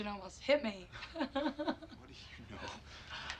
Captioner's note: laughs